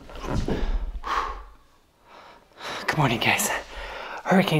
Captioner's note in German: pustet aus